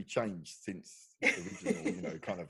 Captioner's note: laughing